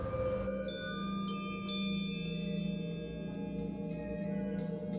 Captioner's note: wind chimes ringing